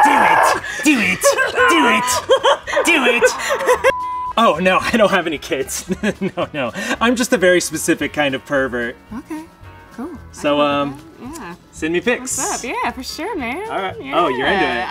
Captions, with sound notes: Do it. Do it. Do it. Do it. Oh no. I don't have any kids. *chuckles* I'm just a very specific kind of pervert. Ok, cool. So, um... send me pics Yeah man, sure man! Oh, you're in it.